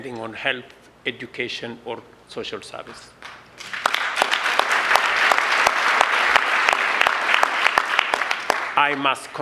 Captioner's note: applause